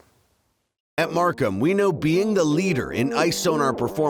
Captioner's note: voiceover